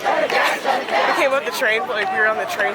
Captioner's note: laughs